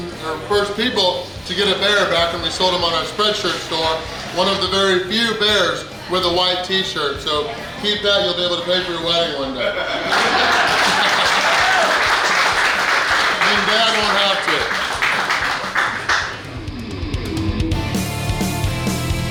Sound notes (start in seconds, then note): 9.6 hahaha; 10.1 clapping